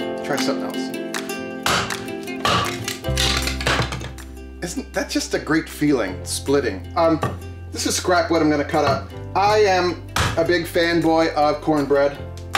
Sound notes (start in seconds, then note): 1.6 upbeat music; 2.5 soft banging